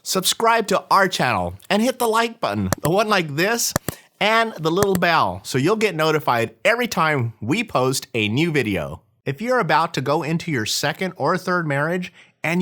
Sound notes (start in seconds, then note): 3.7 clicking